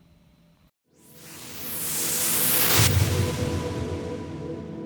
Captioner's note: whooshing